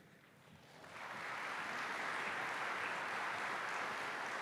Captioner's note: applause